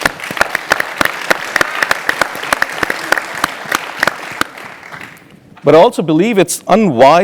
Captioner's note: applause